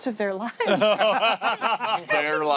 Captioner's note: laughter